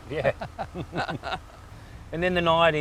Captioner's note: laughs